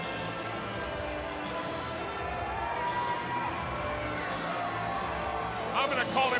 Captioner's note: crowd cheering